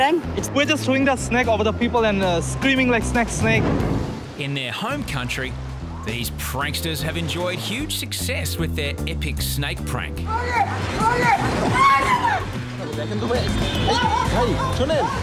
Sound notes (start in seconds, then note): 11.7 man screaming